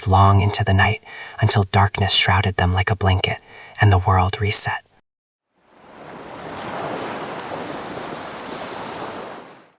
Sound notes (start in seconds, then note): 5.5 ocean waves